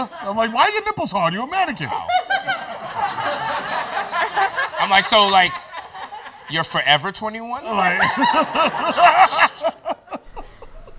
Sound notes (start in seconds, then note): 1.7 laughter; 7.6 laughs